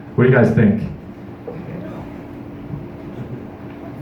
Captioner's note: distant laughter